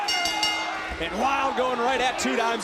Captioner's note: bell rings